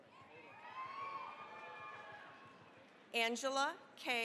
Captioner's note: cheering, applause